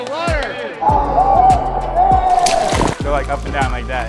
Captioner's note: cheering